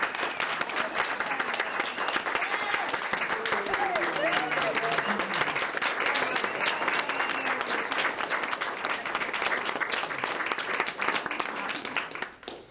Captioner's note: applause